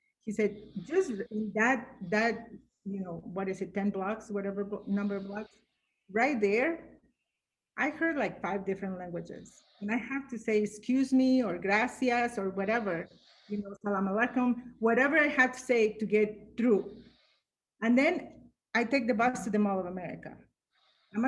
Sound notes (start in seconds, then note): 13.6 speaks arabic